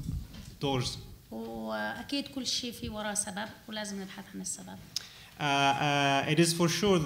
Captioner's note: speaking arabic